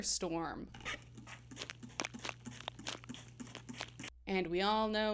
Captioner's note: spray bottle sounds